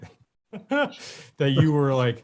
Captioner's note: laughs